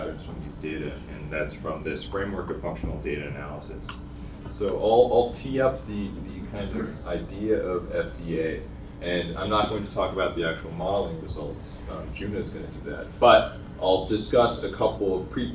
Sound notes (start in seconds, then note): none